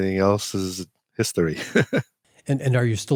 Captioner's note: laughs